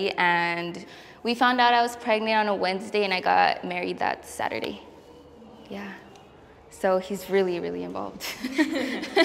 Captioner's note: laughs